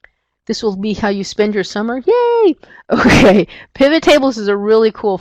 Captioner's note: laughs